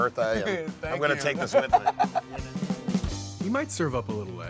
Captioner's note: laughing